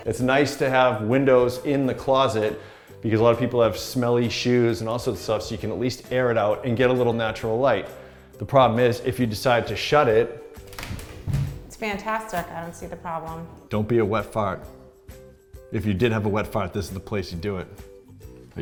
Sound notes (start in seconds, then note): 10.6 doors closing